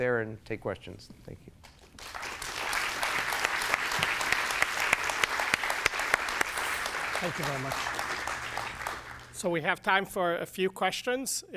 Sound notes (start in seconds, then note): 1.9 applause